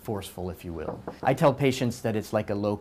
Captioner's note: knocking